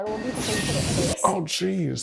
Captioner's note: electric zapping